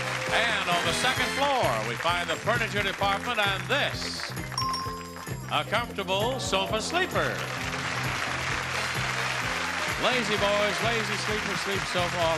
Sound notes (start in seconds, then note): 4.6 bell dings; 6.6 audience cheering